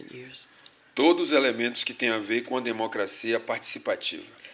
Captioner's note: speaking portuguese